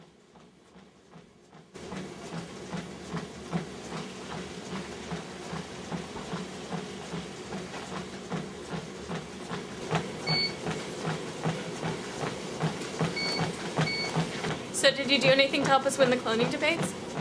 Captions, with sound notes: (treadmill running) (treadmill beeping) (treadmill beeping) - So, did you do anything help us win the cloning debates?